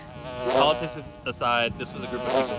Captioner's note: loud buzzing